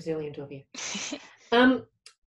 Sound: laughs

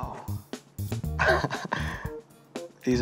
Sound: laughs

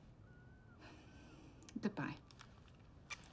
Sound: sighs

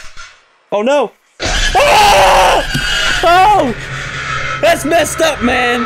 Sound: scream

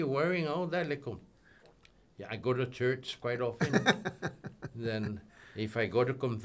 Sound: laughing

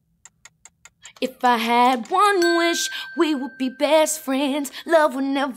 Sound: ping

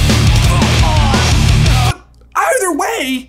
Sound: dramatic music; Draco groans

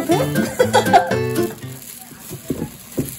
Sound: laughing

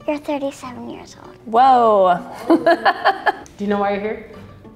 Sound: laughs

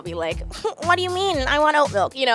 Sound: giggles

